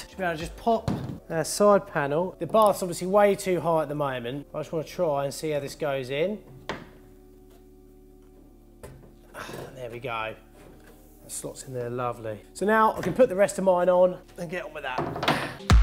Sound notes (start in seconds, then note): 9.6 grunts